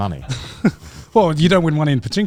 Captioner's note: chuckles